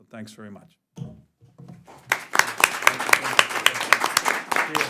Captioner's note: applause